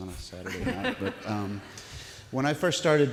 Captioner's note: laughter from audience